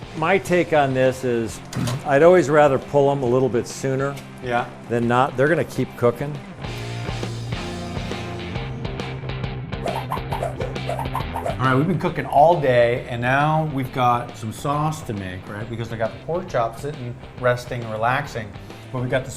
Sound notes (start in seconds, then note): 6.6 upbeat rock music; 9.8 swishing